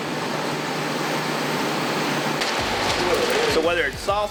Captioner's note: machines whirring